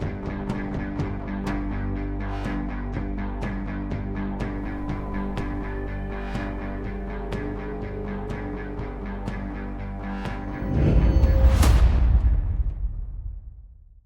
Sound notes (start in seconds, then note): 10.6 air whooshing